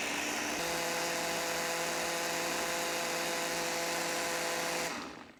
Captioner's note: machine blending